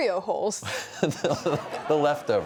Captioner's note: laughter